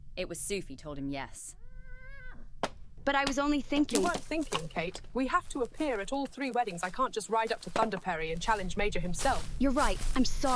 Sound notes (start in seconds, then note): 2.0 horses neigh